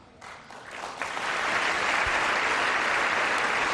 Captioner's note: applause